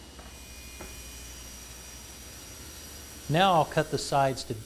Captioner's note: sound of saw blade cutting material